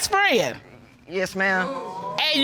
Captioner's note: audience exclaims